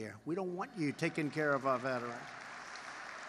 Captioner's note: applause